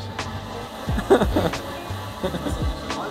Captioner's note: laughs